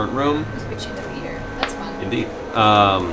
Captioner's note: gasps